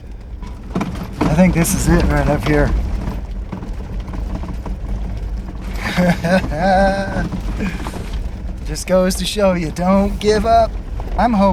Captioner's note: laugh